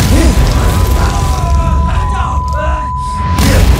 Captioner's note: Screaming